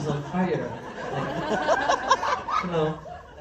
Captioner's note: laughs